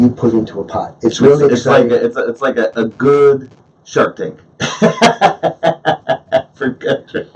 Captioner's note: laughs